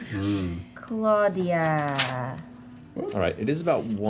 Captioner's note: none